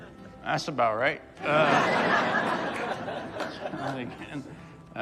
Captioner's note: audience laughs